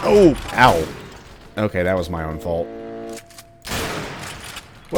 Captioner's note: bam; bam